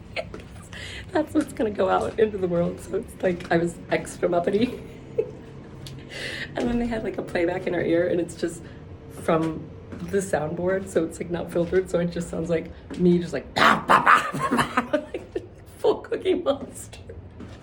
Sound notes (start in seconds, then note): 13.5 laughs; 14.0 barking